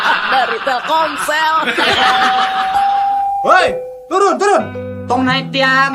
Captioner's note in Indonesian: tertawa